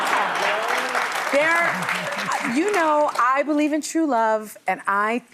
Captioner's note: audience laughing